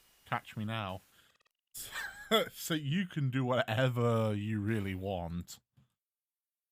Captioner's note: chuckle